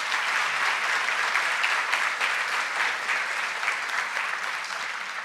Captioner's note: ROUND Of APPLAUSE